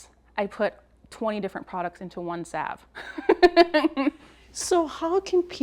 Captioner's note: laughs